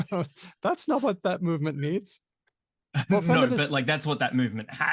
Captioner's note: laughs